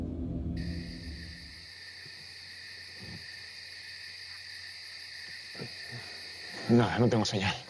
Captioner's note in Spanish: Ruidos de la noche